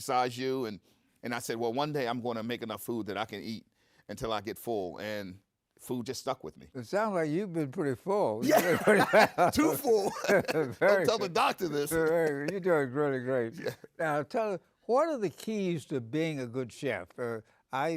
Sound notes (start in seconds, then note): 8.4 bursts out in laughter